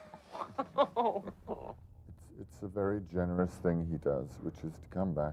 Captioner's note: laughing